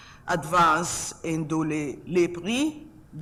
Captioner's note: speaks in French